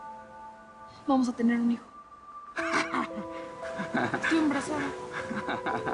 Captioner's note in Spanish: El ríe